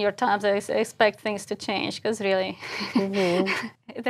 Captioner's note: laugh